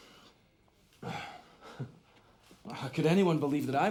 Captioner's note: exhales sharply